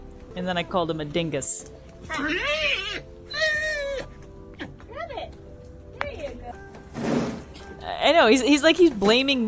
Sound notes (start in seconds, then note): 2.0 Joey vocalising